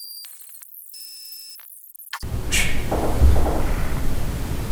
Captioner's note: electronic noise